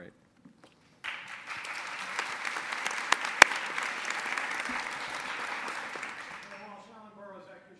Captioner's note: applause